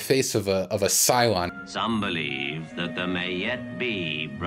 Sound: voiceover

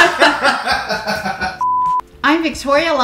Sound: laughing; camera beeps

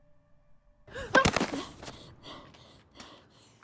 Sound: thud; yelps

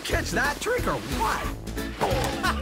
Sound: laughing

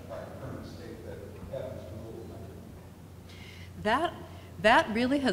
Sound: speaks quietly off mic

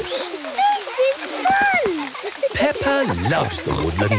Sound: laughter

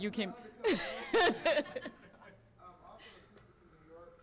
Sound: audience laughing

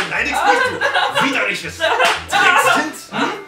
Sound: slap

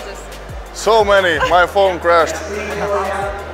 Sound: laughs

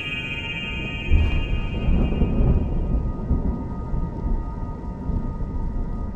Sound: thunder and rain continue

